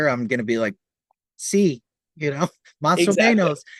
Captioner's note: chuckles